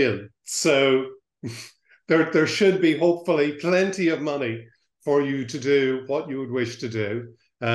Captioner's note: laughs